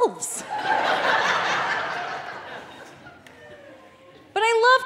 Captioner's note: audience laughing